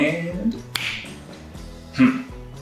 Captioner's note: finger clicks